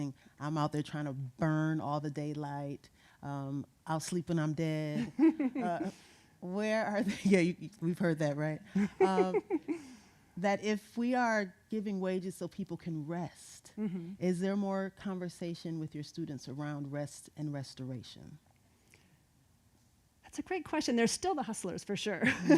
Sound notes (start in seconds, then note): 4.9 laughing; 8.7 laughing; 22.3 laughing